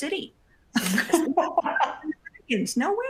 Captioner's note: laughter